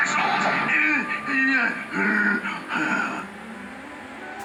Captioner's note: panting